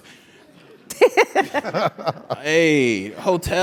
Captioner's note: laugh